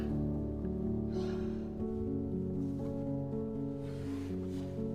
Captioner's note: sighing